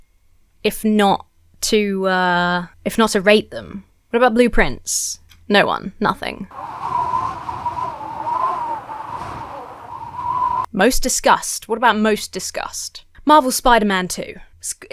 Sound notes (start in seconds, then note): 6.5 wind howls